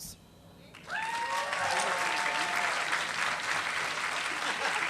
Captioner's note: applause